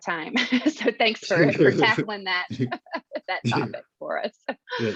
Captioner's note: chortling